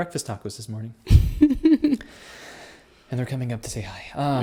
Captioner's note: laughs